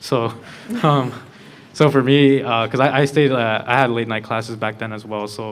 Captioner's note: laughter